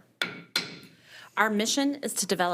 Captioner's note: gavel tapping